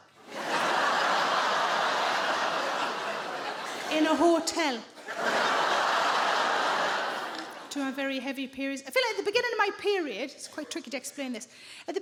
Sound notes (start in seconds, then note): 0.2 audience laughing; 5.5 audience laughing